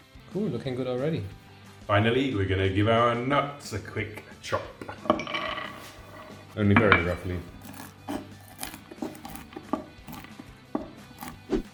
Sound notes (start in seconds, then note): 4.9 nuts spilling; 7.5 nuts crunching